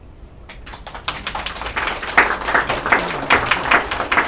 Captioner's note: applause